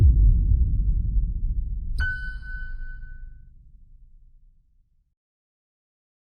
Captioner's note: reverberant pulse; high single tone